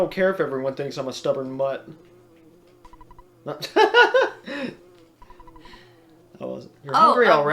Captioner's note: laughs